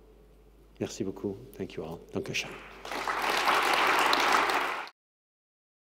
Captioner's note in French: Applaudissements